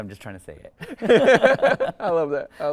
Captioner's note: speakers laugh